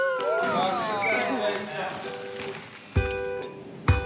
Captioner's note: exclaims, applauds; chuckles; whistle trills; laidback music